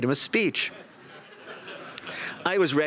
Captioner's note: laughter